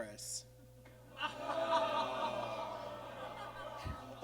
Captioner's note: audience groans